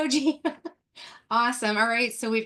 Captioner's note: laughs